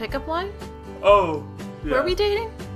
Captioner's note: yawns